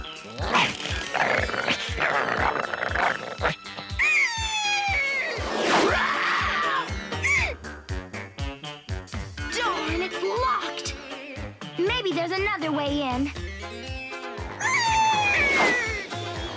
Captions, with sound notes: ROWF! GRR. GRR. [SCREECHES] ROWFFFF! [SQUAWK] DARN, IT'S LOCKED! MAYBE THERE'S ANOTHER WAY IN.